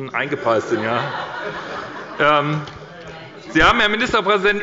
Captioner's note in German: Heiterkeit bei Abgeordneten der SPD